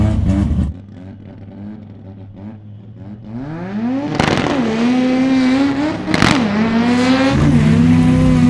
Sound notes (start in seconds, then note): 4.2 engines roaring